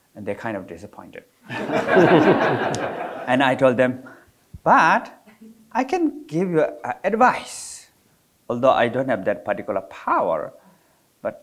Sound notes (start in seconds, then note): 1.5 audience laughing